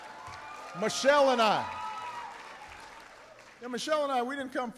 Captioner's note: applause